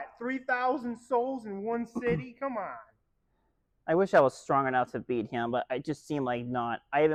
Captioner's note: clears throat